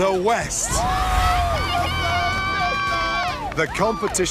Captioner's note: cheering